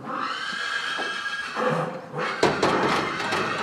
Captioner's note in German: Lautes Wiehern